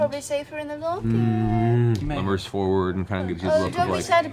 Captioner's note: disgruntled bear noises